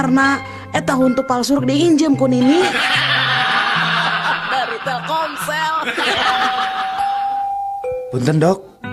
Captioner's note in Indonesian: tertawa